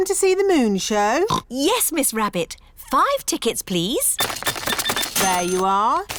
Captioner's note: oinks